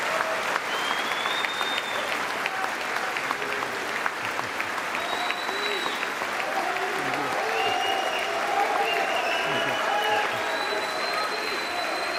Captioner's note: applause